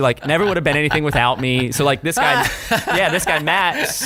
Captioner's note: laughter